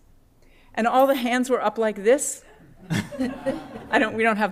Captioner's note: laughter